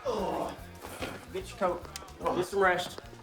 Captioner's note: Castellano groans